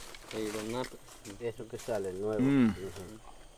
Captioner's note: speaking in foreign language